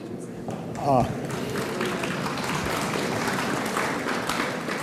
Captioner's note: audience applauds